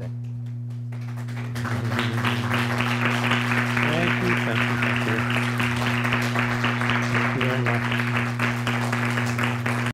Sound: applause

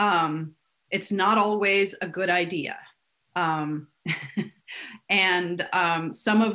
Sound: giggling

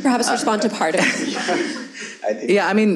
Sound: audience laughs

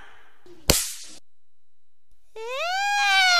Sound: punch, smack sound; crying, wailing

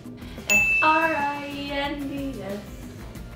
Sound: bell rings

